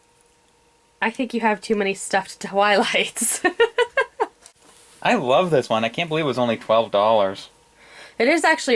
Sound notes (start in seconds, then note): 3.2 laughs